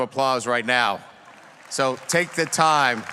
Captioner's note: audience applauds